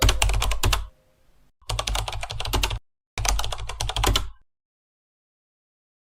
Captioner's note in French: bruit de clavier